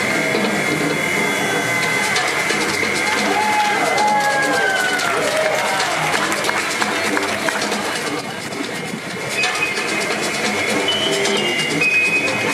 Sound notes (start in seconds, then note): 4.4 audience applauding